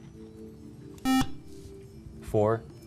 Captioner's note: buzzer